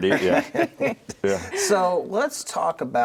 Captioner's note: everyone laughs